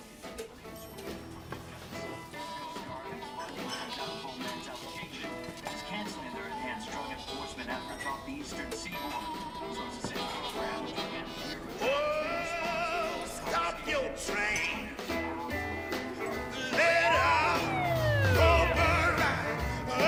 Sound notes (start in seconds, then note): 1.1 distant bell chiming; 3.4 muffled country music; 6.7 muffled TV chatter